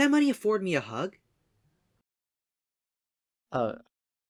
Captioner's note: awkward pause